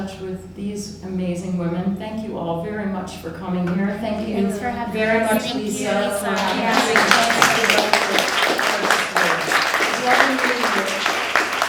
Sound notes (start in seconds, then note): 6.3 applause